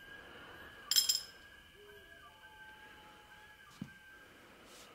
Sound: wrench rattles

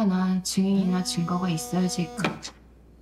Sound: phone vibrating

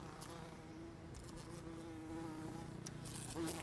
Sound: fly buzzing

